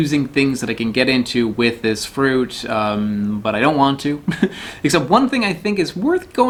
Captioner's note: laughs